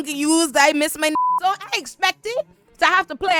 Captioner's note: beep